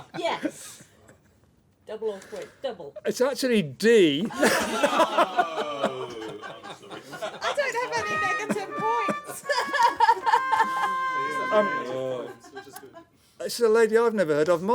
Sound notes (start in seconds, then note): 4.0 laughter; 10.1 sad trombone